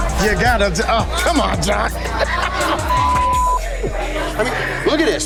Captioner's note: beep